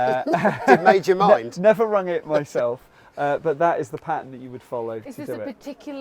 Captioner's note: all laugh